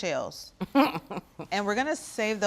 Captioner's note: Bridget chuckles